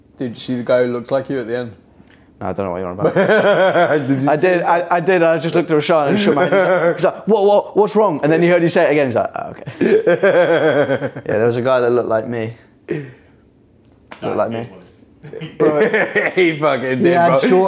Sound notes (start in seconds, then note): 3.0 laughing; 9.6 laughing